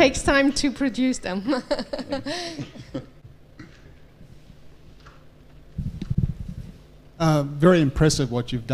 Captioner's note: laugh